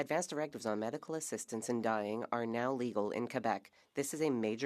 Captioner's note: speaking French